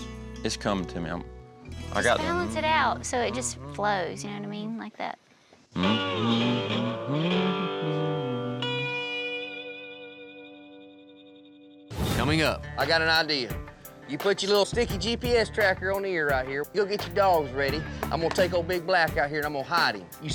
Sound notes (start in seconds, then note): 5.7 humming